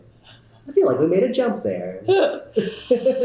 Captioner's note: laughter